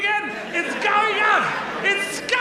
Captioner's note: audience laughs